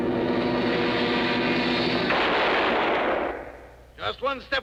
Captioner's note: gun firing